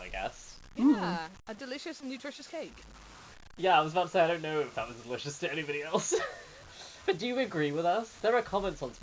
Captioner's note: laughs